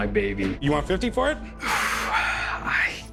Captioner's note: huffs